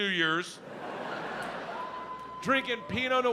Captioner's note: audience laughs